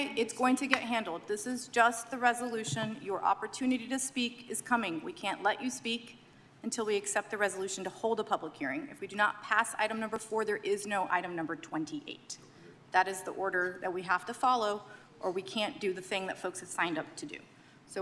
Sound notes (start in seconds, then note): none